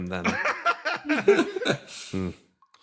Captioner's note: laughs